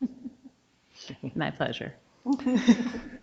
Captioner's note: all laughing; chuckles